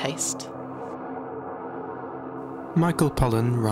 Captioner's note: dark echoing sound